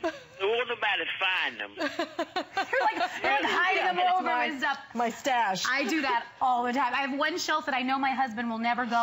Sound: laughter

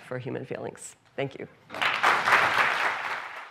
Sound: applause

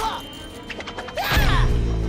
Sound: grunting

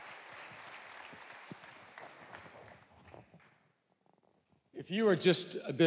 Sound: audience applauds

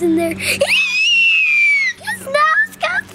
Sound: screaming

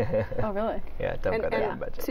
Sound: laughter

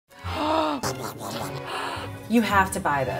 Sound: comedic gibberish; gasp

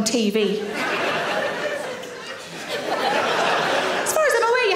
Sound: audience laughs

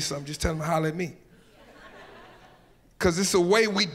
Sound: audience laughs

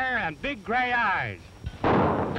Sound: gunshots

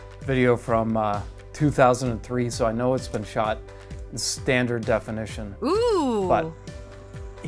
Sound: female voice: Ohhh

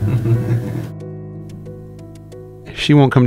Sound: chuckles

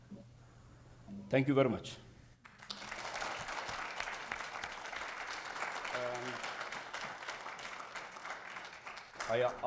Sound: applause

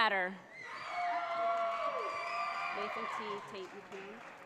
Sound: audience cheers

